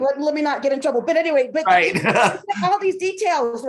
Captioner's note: chuckling